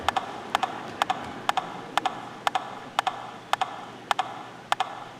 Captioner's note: audience laughing